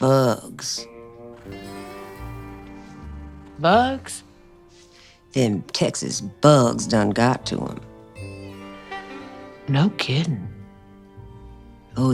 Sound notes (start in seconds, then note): none